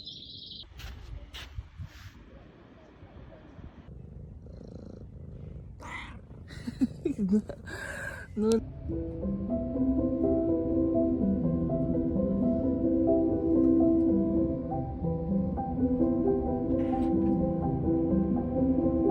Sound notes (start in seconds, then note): 3.8 cat purr; 6.4 laugh; 8.4 emotive piano music